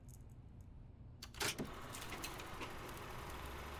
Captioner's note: film camera whirring